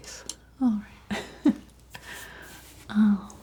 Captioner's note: laughing